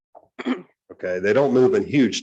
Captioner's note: clears throat